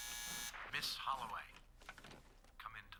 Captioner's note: buzzer